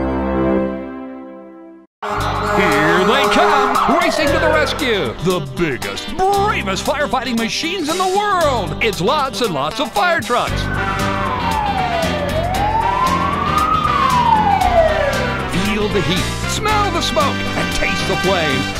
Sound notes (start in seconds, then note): 10.6 siren wailing